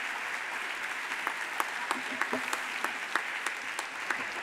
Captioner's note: audience applauds